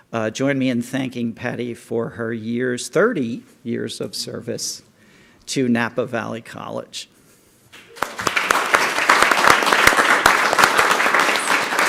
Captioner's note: clapping